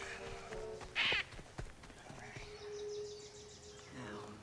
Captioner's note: Polly squawking